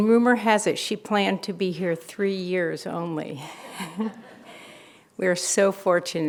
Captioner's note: chuckles